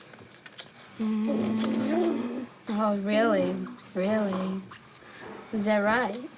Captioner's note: hums